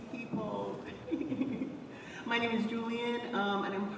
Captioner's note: chuckles